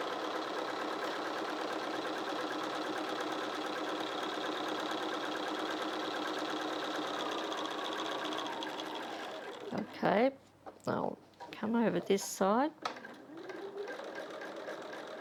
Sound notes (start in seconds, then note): 0.0 sewing Machine Sounds